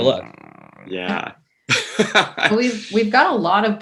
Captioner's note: laughs